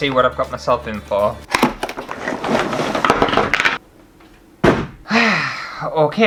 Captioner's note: destructive Noises